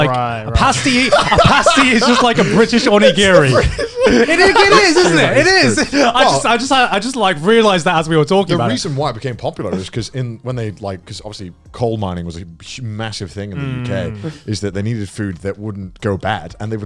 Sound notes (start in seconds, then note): 4.8 laughs